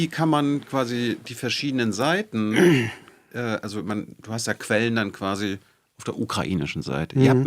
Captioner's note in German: räuspern